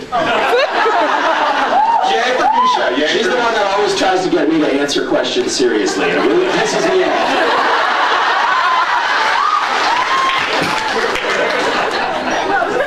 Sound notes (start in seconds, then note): 0.0 laughs; 6.0 scattered laughs; 7.4 laughs; 10.6 scattered laughs